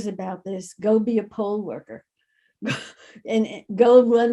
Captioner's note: laughs